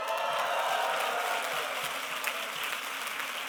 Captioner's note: applause; cheering